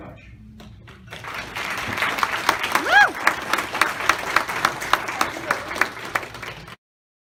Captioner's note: applause